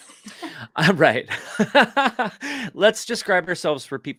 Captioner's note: laughs